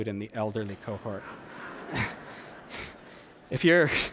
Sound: laughter

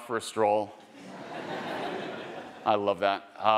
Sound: attendees laughing

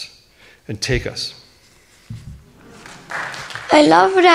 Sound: clapping

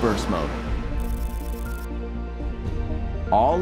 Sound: camera whirring

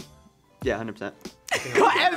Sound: laughs

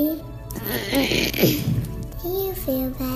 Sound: makes hug noise

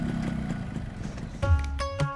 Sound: bike Engine starts

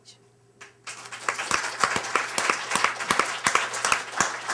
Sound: applause

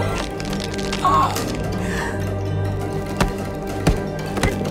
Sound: choking; punching sounds

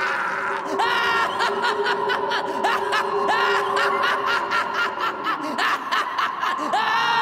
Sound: evil Laughter

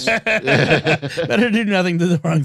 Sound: laughter

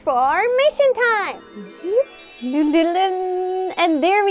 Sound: magical sounds

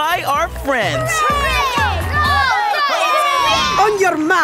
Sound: cheering

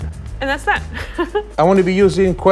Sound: laughing

